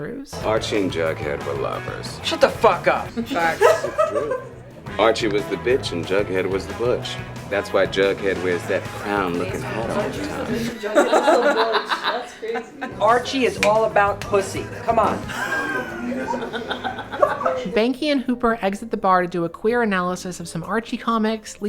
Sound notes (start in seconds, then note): 3.2 laughs; 10.6 laughter; 15.2 laugh